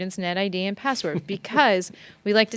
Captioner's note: laughing